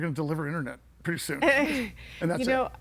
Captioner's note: laughs